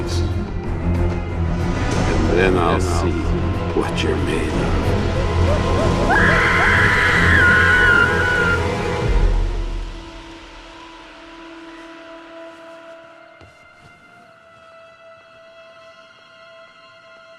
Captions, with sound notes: and then I'll see what you're made of. (Jordan screams) (suspenseful music)